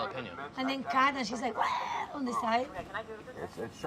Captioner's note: imitates puking